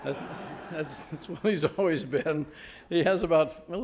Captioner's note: chuckling; audience laughing